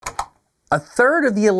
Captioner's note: click